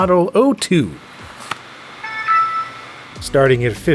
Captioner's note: slides open, startup sound plays